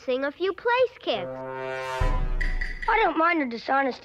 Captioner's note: Among Us “sus” noise